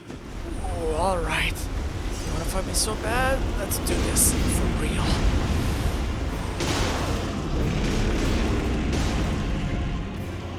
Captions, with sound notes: Ooh. Alright! You wanna fight me so bad? Let’s do this, for real. *deep breath in and out*